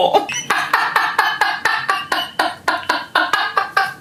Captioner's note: laughing